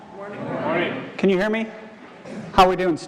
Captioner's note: crowd